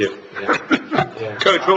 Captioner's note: laughter